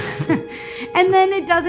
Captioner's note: laughing